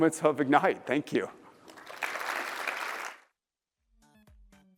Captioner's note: applause